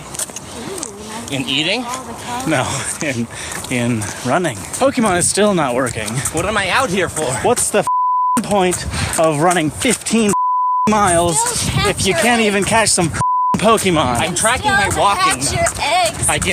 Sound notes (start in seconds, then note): 3.2 laughing